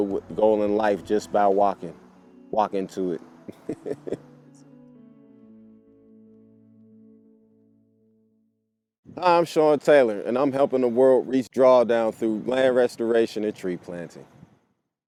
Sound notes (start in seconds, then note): 3.5 laughs